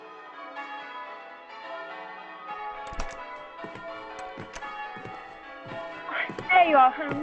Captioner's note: bells tolling, door opens, footsteps